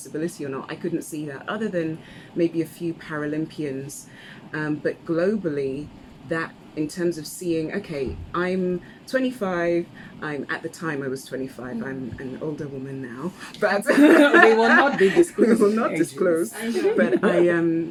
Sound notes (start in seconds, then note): 16.4 laughs